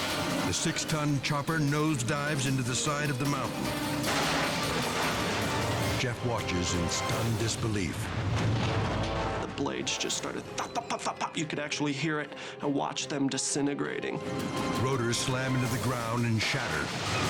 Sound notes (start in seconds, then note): 4.0 helicopter crashing